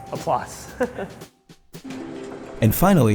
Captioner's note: chuckles